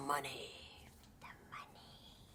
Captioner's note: whispers